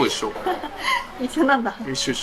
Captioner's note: laughs